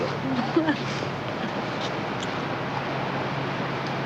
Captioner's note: street din